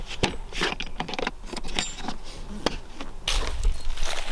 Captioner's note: case thuds; footsteps crunching